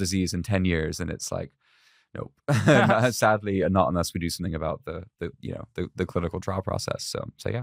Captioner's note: laughs